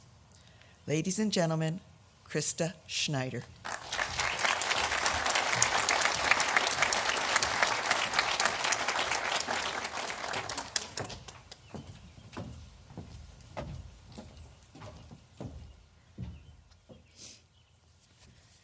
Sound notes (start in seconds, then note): 3.6 audience applauding